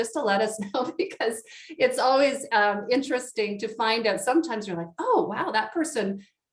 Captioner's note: chuckles